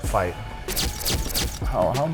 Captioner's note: cameras flashing